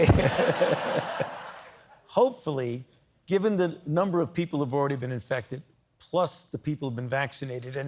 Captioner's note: laughter